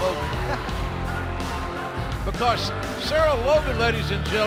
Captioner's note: laughter